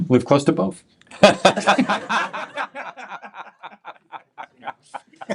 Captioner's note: laughter